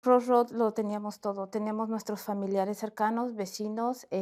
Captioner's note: speaking Spanish